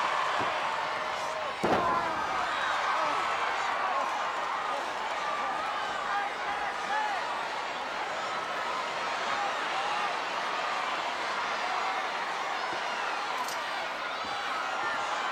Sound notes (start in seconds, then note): 1.7 wrestlers grunting; 6.6 audience chattering